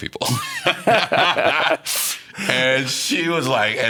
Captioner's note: laughing